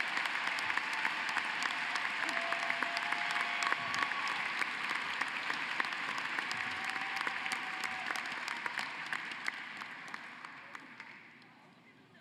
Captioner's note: cheering and applause